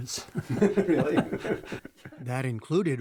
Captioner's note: laughter